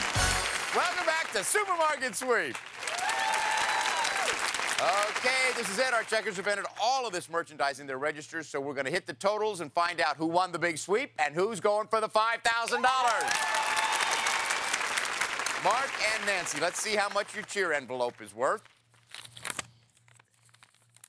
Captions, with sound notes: -Welcome back to Supermarket Sweep. (cheers and applause) Okay. This is it. Our checkers have entered all of these merchandise in their registers, so we're going to hit the totals and find out who won the big sweep and who's going for the $5000. (cheers and applause) -Mark and Nancy, let's see how much your Cheer envelope is worth.